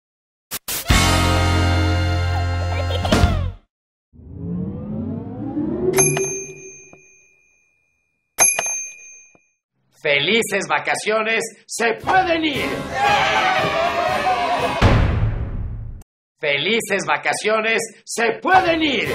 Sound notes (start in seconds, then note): 12.6 joyous celebration & rejoicing